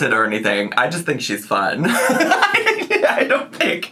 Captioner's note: laughs